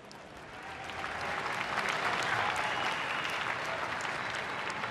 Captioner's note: applause